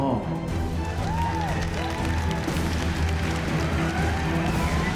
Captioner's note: cheers and applause